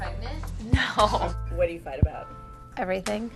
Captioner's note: chuckles